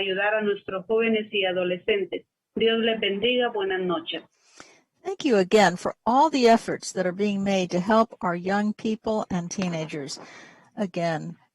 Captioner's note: speaking spanish